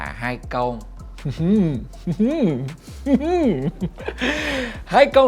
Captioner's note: mysteriously laugh